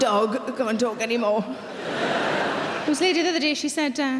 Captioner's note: laughing